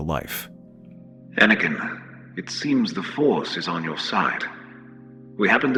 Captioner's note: over commlink